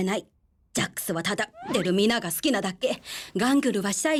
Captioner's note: bonk!